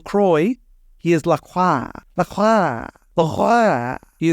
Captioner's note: immitating a French accent